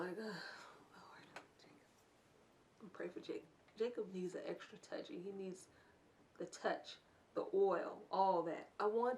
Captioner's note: whisper